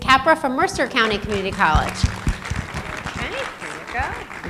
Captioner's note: applause